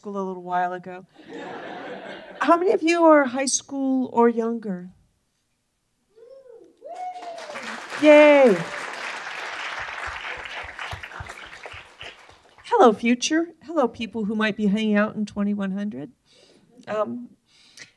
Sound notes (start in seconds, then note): 1.2 laughter; 6.8 cheering and applause